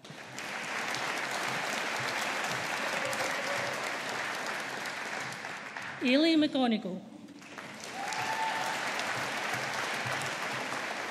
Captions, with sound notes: (AUDIENCE APPLAUDING) Ailidh McGonigle. (AUDIENCE APPLAUDING)